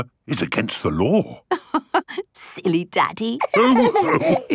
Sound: laughing

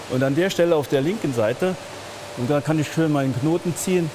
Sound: none

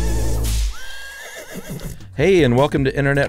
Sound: horse neighing

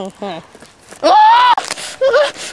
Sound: A HigH pitched Scream silenced by duct tape

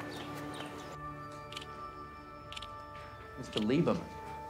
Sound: ticks

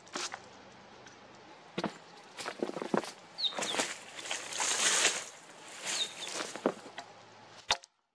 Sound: footsteps, branches crackling, and a loud pine grosbeak; axe knocking on wood

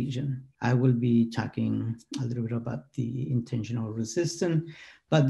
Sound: continuing in English

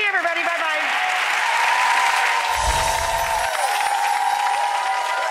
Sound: audience cheering

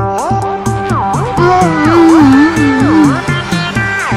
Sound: hum hum hum

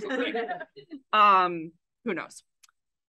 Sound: AUDIENCE laughs

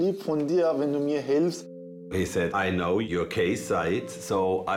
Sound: in English

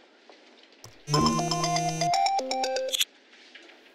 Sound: phone ringing

